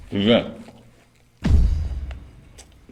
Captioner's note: thud